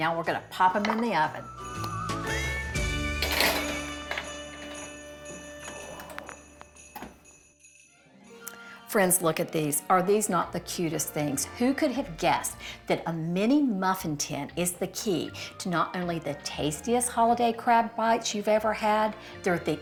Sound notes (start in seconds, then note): 3.2 pan clatters; 3.9 carefree music